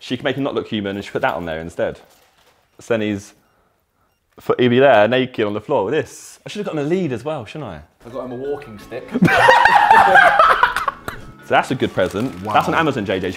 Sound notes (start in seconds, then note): 9.1 Ethan and Tobi laughing